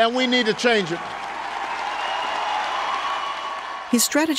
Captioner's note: cheers and applause